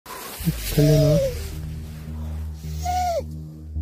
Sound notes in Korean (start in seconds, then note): 0.5 끼잉